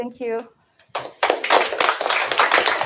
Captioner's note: applause